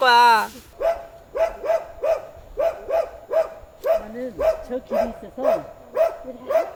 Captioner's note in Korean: 시골 개 짖는 소리